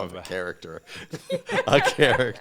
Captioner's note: panelists laughing